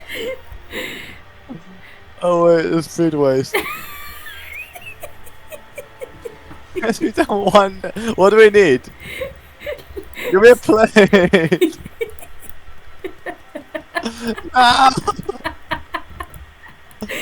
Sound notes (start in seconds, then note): 0.0 inhale; 4.5 horrible breathy laugh